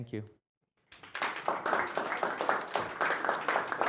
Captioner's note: applause